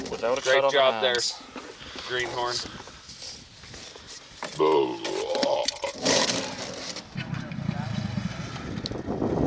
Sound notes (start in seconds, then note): 4.5 belching